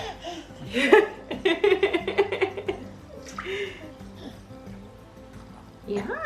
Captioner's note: laughs